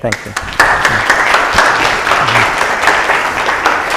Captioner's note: applause